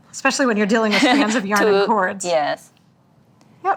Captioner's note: laughs